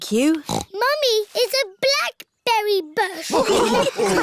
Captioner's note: snorts; all laughing